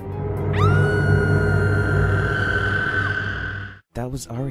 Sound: screaming

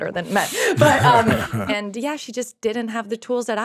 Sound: laughing

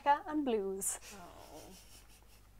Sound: groans and laughter

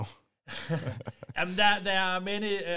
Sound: both laughing

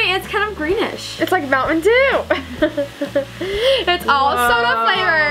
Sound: laughs

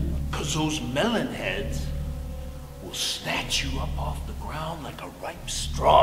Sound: whispering, still terrified

